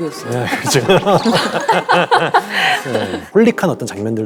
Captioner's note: laughing